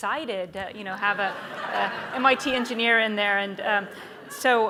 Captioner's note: audience laughs